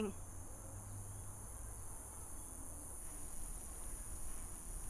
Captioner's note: insects chirping